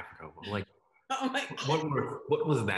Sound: laughs

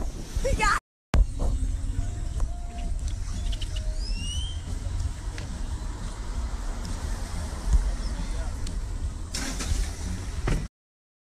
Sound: birds chirping

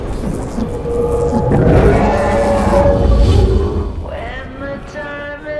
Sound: atmosphere whooshing and growling

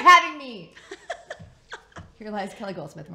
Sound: laughs

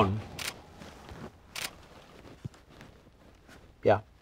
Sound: camera shutter clicking

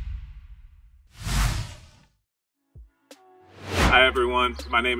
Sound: air whooshes

